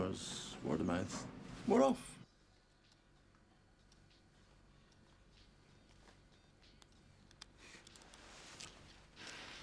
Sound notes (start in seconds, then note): 3.4 fingers tapping; 3.4 upbeat music